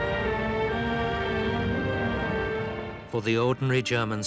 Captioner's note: tank rumbling